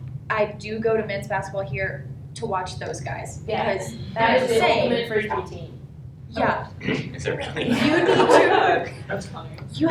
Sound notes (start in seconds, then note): 7.5 laughter